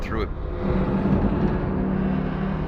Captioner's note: gate creaking